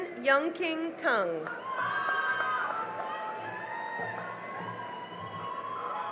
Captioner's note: cheering and applause